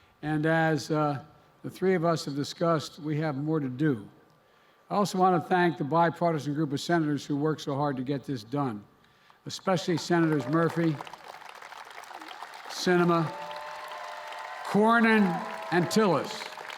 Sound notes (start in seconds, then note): 9.8 applause